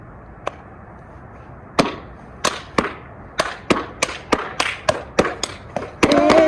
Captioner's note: stomping and Clapping